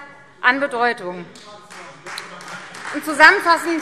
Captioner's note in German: Beifall Freie Demokraten